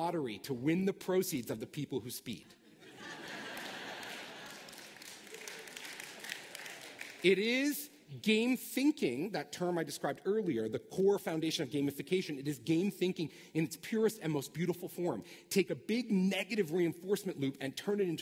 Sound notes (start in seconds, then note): 2.6 laughter